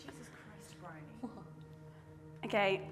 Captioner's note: laughing